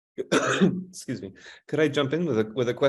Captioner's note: coughing